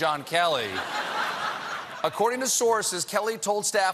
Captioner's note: laughter